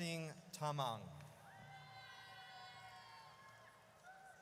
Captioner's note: audience cheers